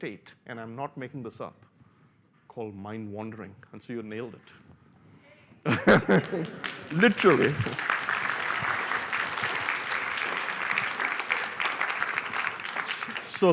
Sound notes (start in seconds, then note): 5.7 laughs; 5.7 applause